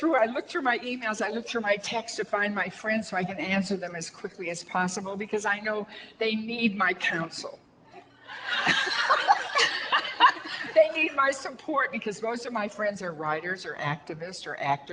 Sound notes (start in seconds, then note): 8.3 audience laughter